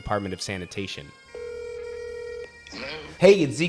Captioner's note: phone rings